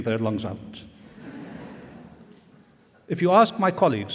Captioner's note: laughter